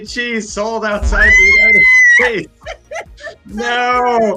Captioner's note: murmurs and laughs